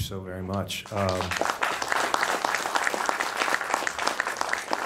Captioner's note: audience applauding